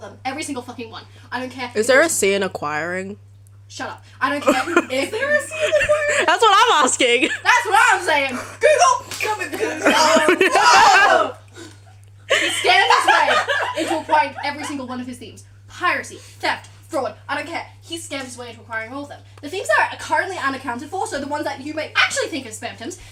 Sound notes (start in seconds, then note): 13.7 very loud cackling